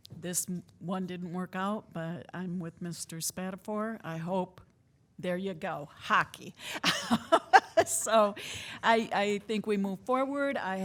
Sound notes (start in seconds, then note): 6.8 laughing